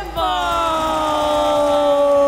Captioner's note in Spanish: Aplausos